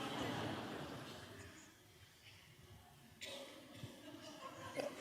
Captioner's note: audience laughs